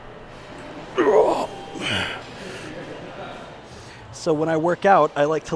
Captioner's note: heavy quick puffing; grunting and groaning